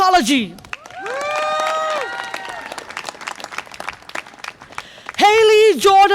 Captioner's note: audience applause and cheer